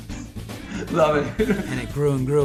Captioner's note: laughs